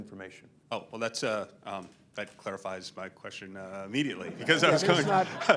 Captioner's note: laughter